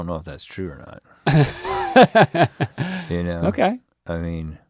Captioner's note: Link laughs